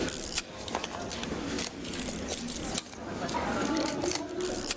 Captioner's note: camera whirring and clicking